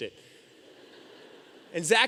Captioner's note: audience laughing